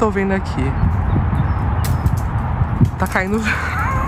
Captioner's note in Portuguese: pássaros cantando